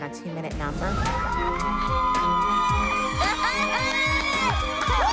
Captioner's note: cheering